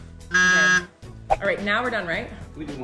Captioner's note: sound of buzzer